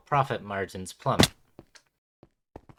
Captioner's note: splat